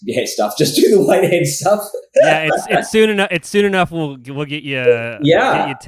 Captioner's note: laughs